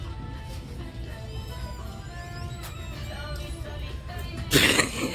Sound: door creaks open; is dying of laughter

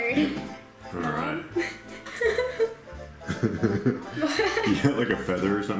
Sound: laughs

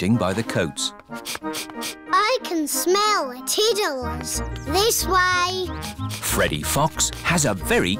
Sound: sniffs

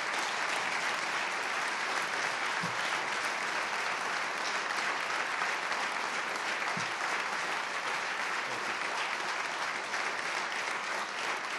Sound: applause

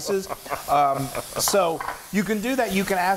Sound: laugh

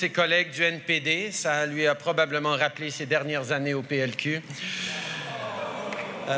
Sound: groans

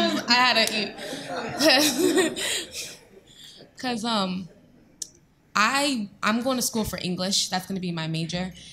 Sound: laughing

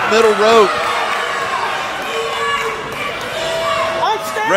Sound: crowd yelling

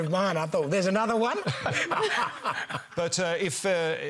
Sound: laughter

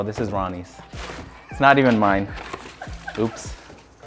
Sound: videographer laughs

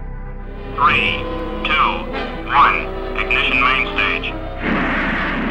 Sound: radio voice

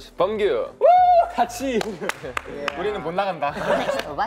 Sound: speaking Korean

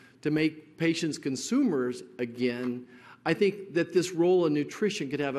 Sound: none

